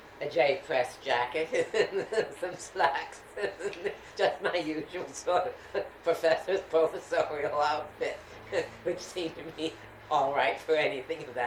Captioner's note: laughs